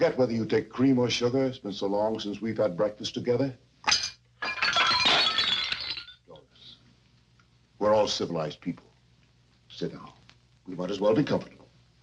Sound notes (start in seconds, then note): 4.4 dishes shattering